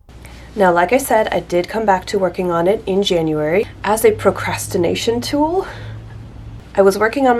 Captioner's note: soft laugh